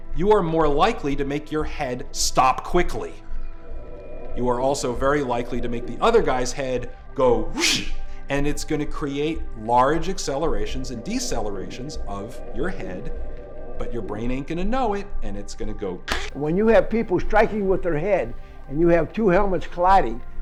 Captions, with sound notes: you are more likely to make your head stop quickly. You are also very likely to make the other guy's head go Whoosh! And it's gonna create large accelerations and decelerations of your head, but your brain ain't gonna know it. And it's gonna go, (Crack) When you have people striking with their head and you have two helmets colliding